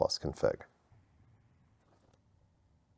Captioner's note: silence